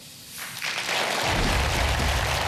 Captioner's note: applause